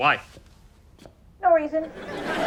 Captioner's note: voiceover; audience laughter